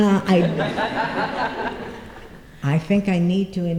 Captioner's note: laughter